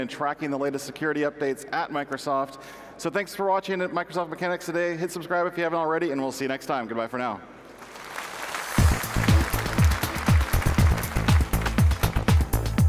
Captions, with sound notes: and tracking the latest security updates at Microsoft, so thanks for watching Microsoft Mechanics today. Hit subscribe if you haven't already and we'll see you next time, goodbye for now. (audience applause) (techno music)